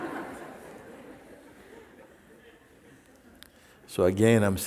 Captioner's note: Lachen